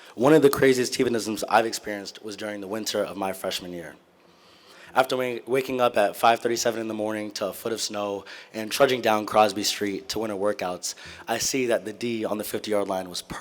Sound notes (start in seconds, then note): none